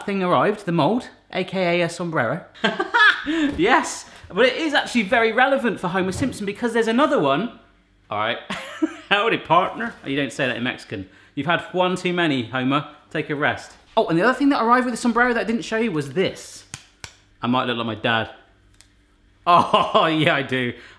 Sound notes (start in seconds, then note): 2.6 laughing; 8.6 laughing